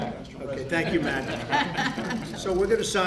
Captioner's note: laughter